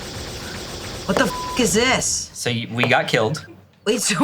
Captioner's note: beep